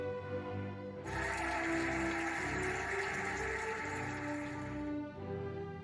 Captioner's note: cheering and applauding